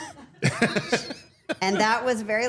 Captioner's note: Paul laughing